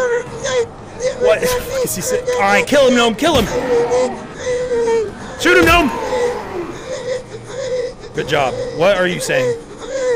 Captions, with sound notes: what [laughter] is he s- alright, kill him gnome, kill him! shoot him, gnome! good job what are you saying